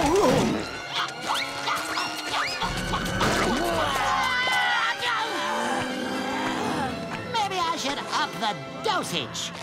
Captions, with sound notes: [grunting] Maybe I should up the dosage!